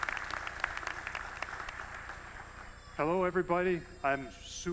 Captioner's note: applause